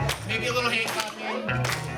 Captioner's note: clapping to the beat